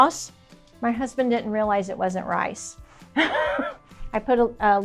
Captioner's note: laughs